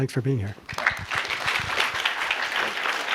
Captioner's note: applause